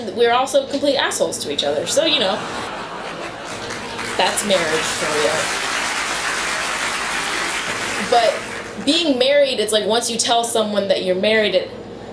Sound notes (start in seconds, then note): 1.8 audience laughter; 2.1 laughter and clapping; 6.2 clapping